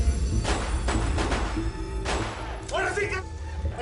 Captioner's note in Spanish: Disparos; Disparos